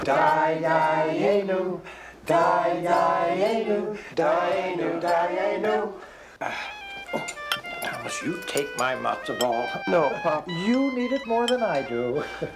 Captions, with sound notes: (singing) (phone ringing) - Thomas, you take my matzo ball. - No, pap. - You need it more than I do.